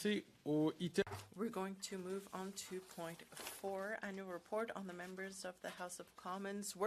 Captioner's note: speaking French